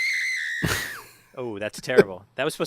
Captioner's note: laugh